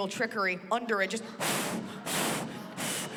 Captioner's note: blows